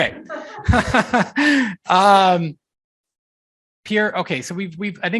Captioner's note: laughing